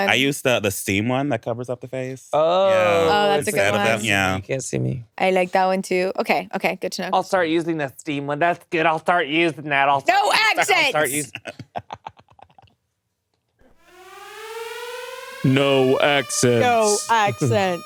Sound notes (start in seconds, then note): 13.7 alarm blaring